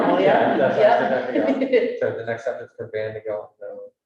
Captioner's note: woman laughing